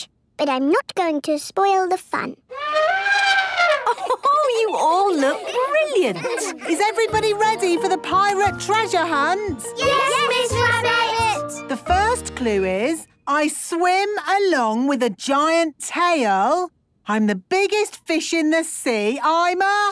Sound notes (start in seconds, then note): 2.5 trumpeting; 3.6 Mummy Pig laughing